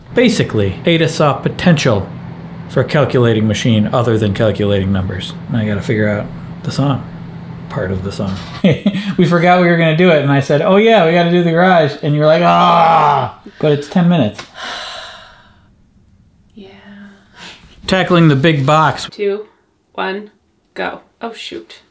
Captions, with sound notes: Basically, Ada saw potential for a calculating machine other than calculating numbers. Now I gotta figure out the song. Part of the song. (laughs) We forgot we were gonna do it, and I said oh yeah, we gotta do the garage, and you were like, "Aaahhhh", but it's 10 minutes. (sighing) - Yeah. - Tackling the big box. - Two, one, go. Oh shoot.